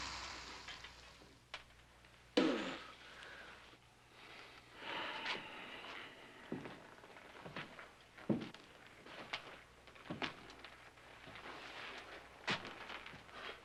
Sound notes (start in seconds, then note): 2.4 spits